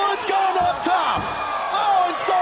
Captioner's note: crowd cheering